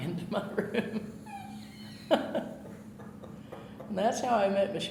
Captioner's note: laughing